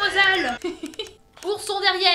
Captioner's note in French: Rires